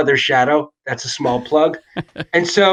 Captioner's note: laughs